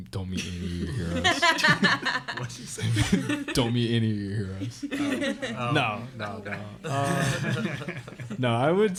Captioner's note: laughter